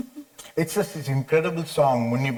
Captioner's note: chuckles lightly